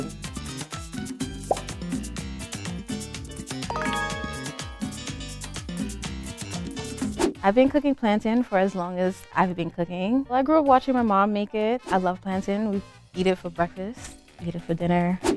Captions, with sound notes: (music intensifies) (leaderboard chimes) - I've been cooking plantain for as long as I've been cooking. Well, I grew up watching my mom make it. I love plantain. We eat it for breakfast. We eat it for dinner.